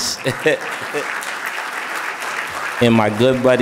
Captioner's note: audience applauding